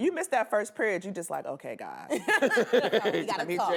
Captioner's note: laughter